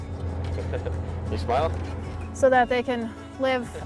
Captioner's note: chuckles